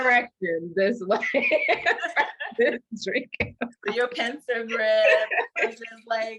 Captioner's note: both laugh; laughter ensues